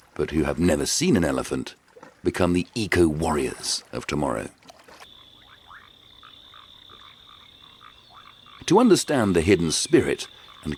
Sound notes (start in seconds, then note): 5.1 locusts chirping